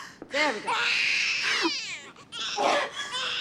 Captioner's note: panting; baby crying